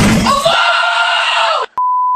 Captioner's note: random kid screaming because why not